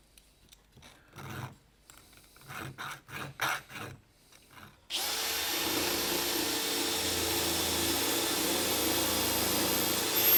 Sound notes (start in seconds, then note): 4.9 drilling sound